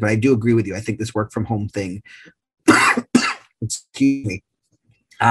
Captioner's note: coughs